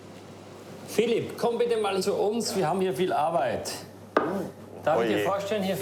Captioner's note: speaking foreign language